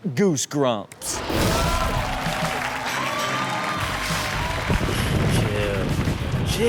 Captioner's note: audience cheers; rock music